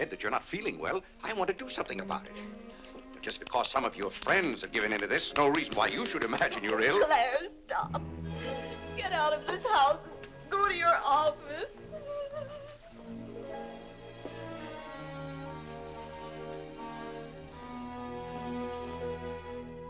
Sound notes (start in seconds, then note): 11.6 weeping; 14.1 soft sad music